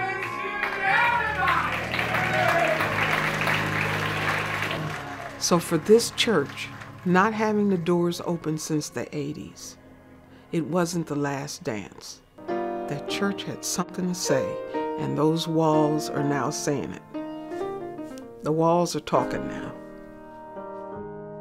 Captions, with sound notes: >> Oh, Bless you God, Jesus in Heaven, Son Almighty. Happy Thanksgiving to everybody! [ Applause ] >> So for this church, not having the doors opened since the '80s, it wasn't the last dance. The church had something to say, and those walls are now saying it.